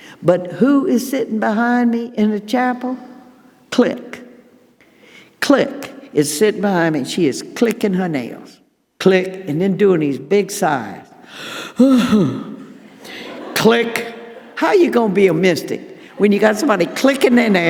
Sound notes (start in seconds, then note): 11.3 sighing